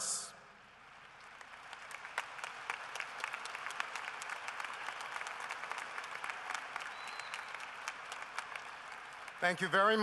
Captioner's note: applause